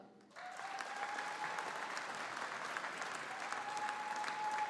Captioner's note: audience applauding